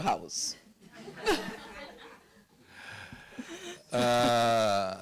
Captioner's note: audience laughing